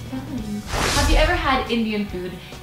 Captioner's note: rush of air